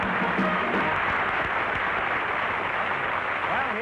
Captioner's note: theme music & applause; applause